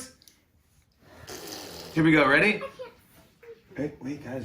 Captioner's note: spitting noise